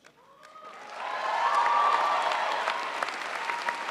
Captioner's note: crowd applauds